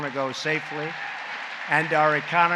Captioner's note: applause